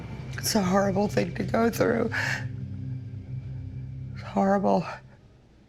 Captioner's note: sobs